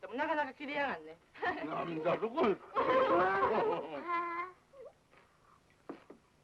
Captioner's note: laughs!